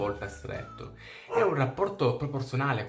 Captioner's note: woof!